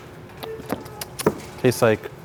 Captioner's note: lips smacking